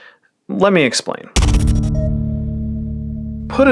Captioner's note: breath; bass hit and digital beep